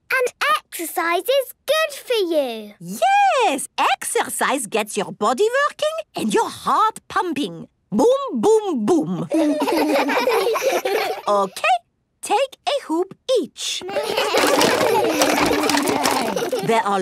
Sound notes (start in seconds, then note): 9.2 laughs; 13.8 all laugh